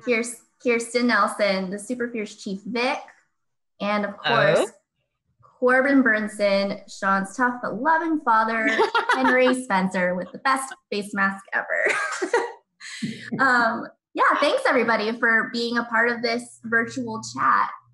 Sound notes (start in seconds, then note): 12.0 laughs